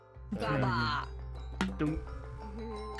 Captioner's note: bonk